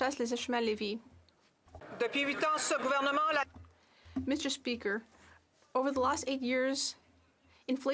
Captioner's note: speaking French